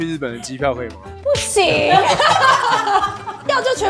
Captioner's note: laughter